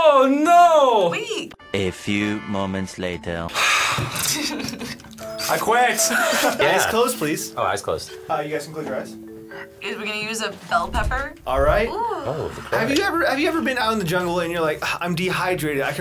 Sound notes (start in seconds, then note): 3.6 sighs; 4.0 chuckles